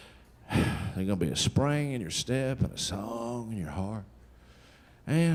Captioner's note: sighs